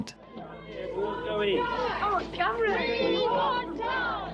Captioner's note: crowd chatter